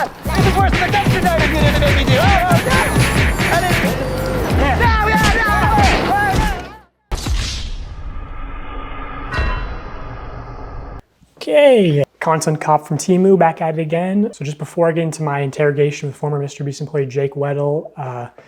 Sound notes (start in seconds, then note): 5.3 pained objections